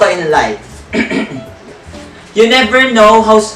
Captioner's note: clears throat